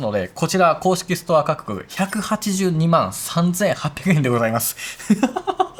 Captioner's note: laughs